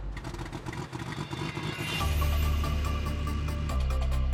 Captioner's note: propeller chugging